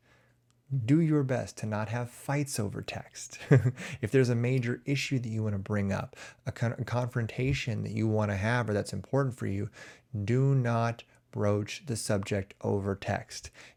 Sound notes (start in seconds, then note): 3.4 chuckles